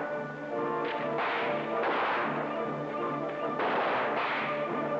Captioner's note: guns blasting